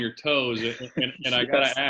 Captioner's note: laughs